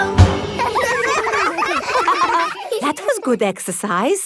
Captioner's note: all giggling